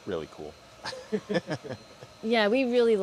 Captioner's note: laughter